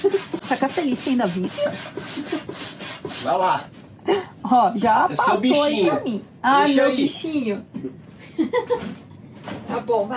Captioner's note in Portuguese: risadas